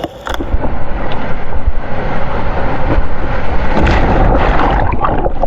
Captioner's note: sound of waves